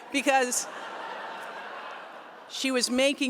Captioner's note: laughter